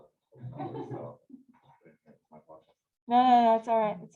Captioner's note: laughter